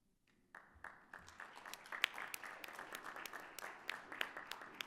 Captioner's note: audience applauding